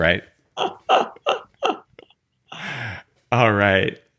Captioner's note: laughing